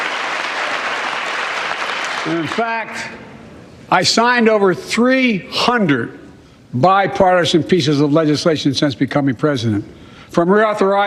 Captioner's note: cheers and applause